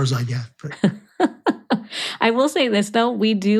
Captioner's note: laughs